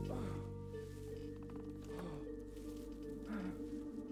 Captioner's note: mr. grey grunting